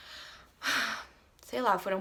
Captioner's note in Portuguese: suspiro